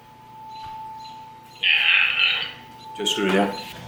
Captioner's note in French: cri de T-rex